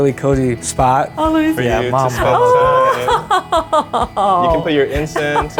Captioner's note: laughing